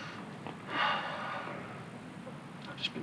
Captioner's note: Allen sighs